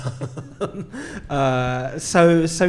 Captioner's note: laughing